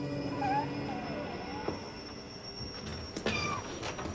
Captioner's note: cat meowing